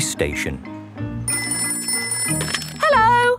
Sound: ringing

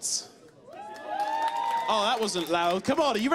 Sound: cheers

